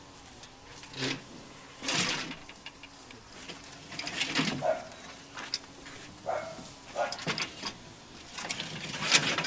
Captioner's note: old bicycles clattering, dogs barking